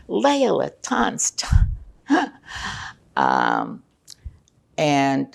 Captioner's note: laughing